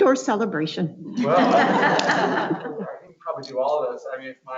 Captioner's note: laughs